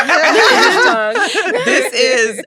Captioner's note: all laughing